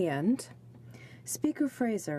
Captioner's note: speaking french